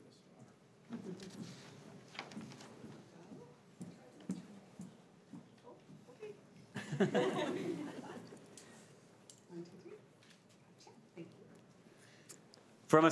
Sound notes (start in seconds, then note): 6.7 crowd giggling